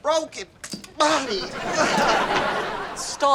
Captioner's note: audience laughter